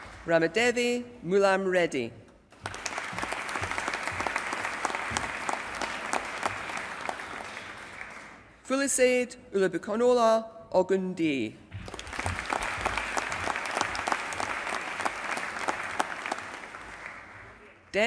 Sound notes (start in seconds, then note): 0.0 applause; 2.5 applause; 11.8 applause